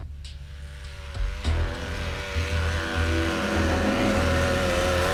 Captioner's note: approaching buzz